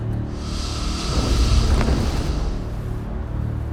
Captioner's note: creature hisses; gentle suspenseful music